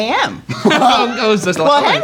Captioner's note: laughs